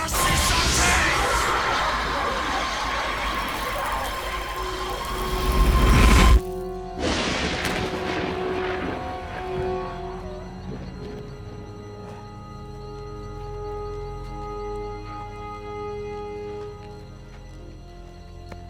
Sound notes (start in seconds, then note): 0.0 yells out spell in latin; 7.0 thunderclap